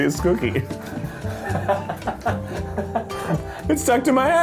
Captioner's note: laughing